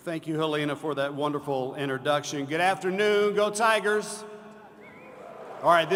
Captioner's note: applause